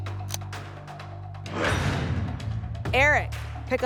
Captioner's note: lock sound